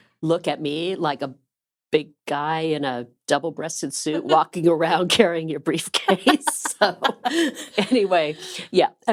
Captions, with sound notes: 'look at me' like a big guy in a double-breasted suit walking around carrying your briefcase. [LAUGHING] So anyway, yeah.